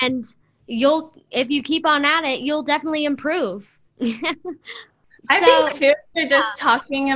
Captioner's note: laughter